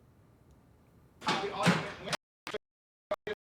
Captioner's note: door opens